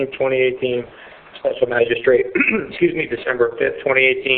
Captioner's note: clears throat